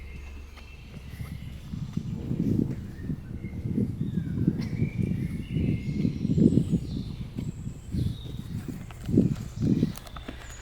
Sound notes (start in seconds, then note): 2.5 air whooshing